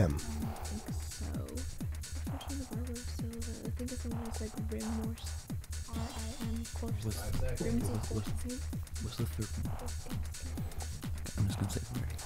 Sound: whispering

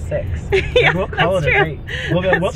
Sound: chuckles

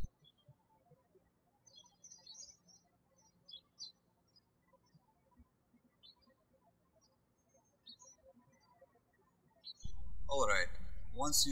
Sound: birds chirping

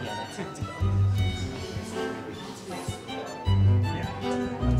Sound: general trivia chatter

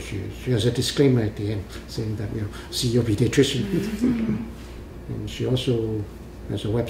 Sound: all laugh

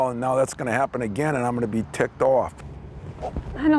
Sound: none

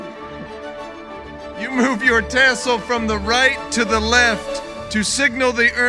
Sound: laughing

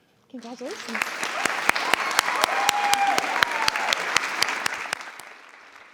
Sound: everyone applauding

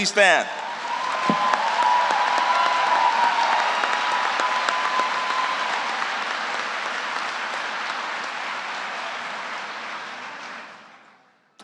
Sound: applause

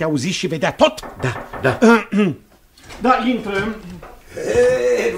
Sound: knocks on the door

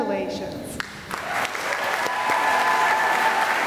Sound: applause

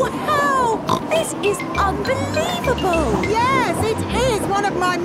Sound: snorts

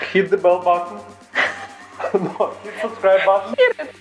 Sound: laughing

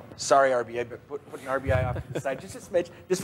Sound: laughs

